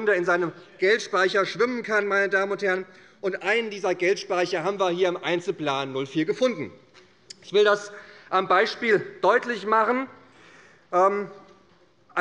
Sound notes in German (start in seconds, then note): none